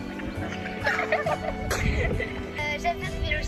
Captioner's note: laughter